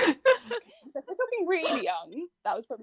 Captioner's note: laughter